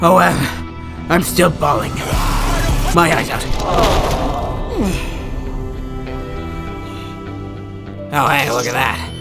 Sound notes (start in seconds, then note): 2.7 raaaaaaah; 4.7 awww